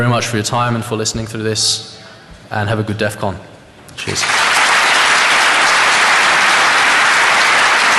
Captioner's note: applause